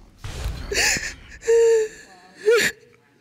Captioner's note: groaning